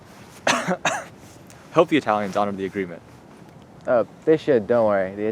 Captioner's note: coughs